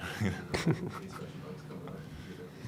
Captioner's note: laughing; murmuring